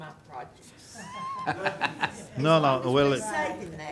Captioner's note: group talking